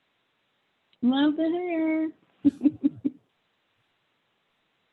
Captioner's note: laughs